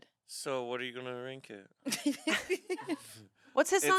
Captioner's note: laughs